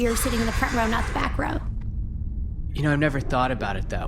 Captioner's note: exhales